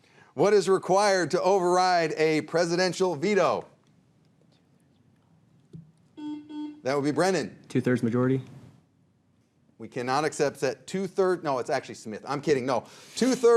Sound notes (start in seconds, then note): 6.2 buzzer dings